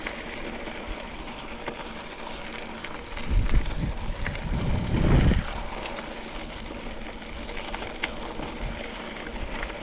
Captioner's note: vibration; up-and-down from pedalling